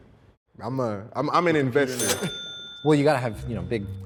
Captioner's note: cash register rings